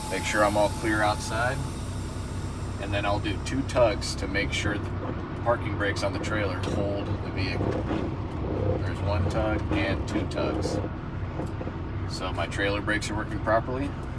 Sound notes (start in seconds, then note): 7.3 vehicle rumbling